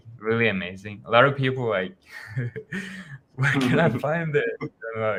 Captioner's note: chuckles